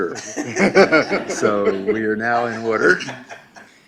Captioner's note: laughing